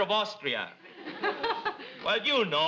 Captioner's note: audience laughs